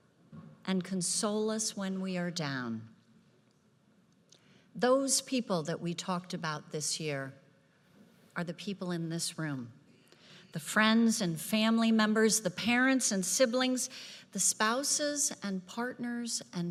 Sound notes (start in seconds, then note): none